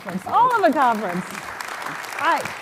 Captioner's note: applause